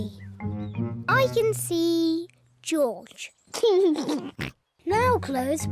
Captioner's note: laughs